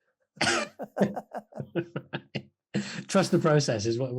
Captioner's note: laughing